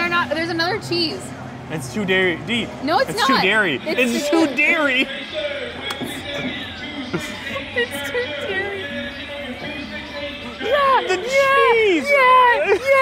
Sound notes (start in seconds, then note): 5.8 laughs